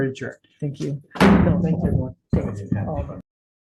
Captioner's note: gavel knock